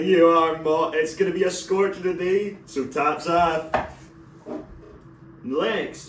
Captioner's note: knock